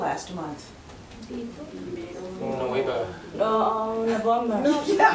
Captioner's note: students speaking in Spanish; laughing